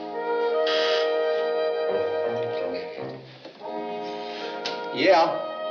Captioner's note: intercom buzzes